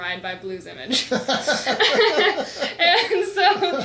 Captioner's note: laughs